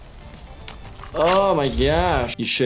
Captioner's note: ripping